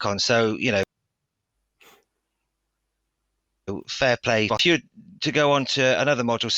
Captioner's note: audio cuts